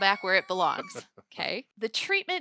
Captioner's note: laughing